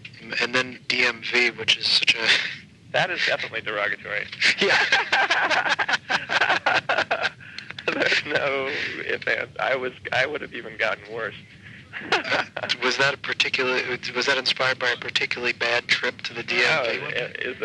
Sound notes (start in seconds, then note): 4.3 laughing